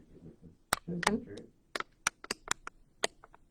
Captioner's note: murmurs